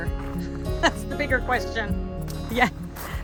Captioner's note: laughs